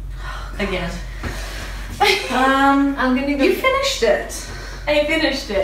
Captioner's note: laughs